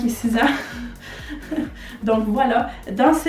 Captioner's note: laugh